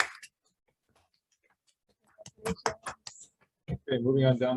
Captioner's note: hands clapping